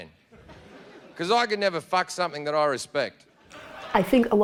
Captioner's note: laughter